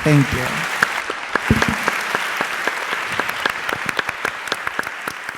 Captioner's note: audience applauding